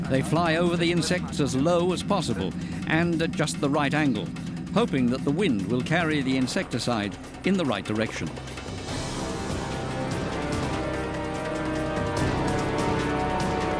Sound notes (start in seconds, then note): 8.5 dramatic music; 8.5 helicopter rumbling